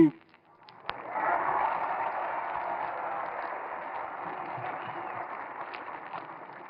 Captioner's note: audience applauding and cheering